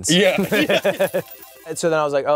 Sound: laughs

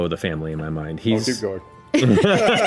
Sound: laughing

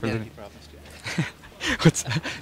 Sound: laughing

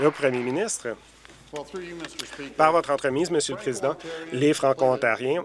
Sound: applause

